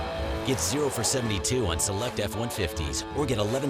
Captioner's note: voiceover